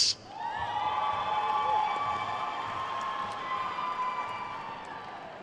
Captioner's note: attendees cheering and applauding